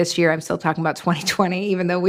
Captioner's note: laughing